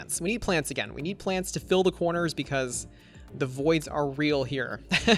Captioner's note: laughs